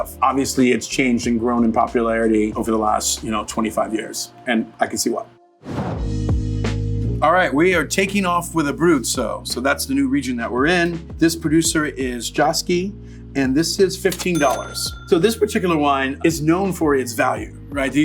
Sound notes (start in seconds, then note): 5.7 dramatic whooshing; 7.4 relaxed hip-hop music